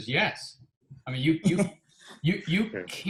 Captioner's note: chuckling